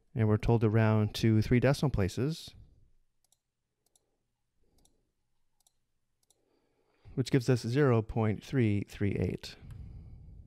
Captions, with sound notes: And we're told around two, three decimal places, [mouse clicking] which gives us 0.338.